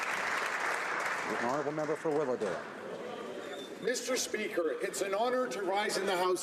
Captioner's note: applause